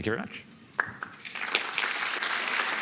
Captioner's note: applause